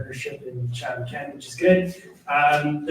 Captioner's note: none